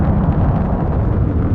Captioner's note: engine roaring